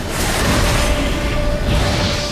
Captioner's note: Quen shield explodes; flames whoosh